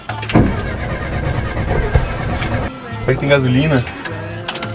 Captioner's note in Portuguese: ignição engasgando